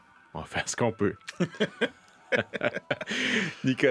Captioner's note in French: rires